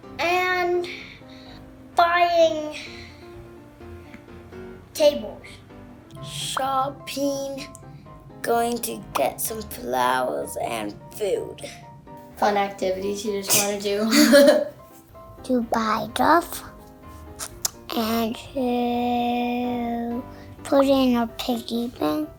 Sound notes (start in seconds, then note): 14.2 both laugh